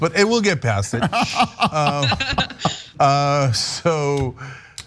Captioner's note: laugh